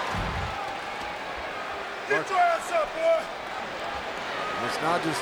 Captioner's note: applause